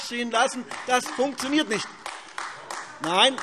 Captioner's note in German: Beifall AfD - Zuruf CDU: Doch!